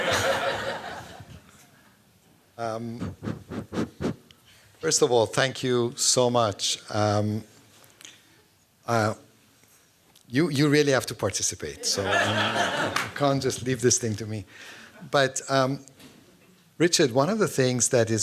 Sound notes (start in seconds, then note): 0.0 laughter; 2.8 blowing into microphone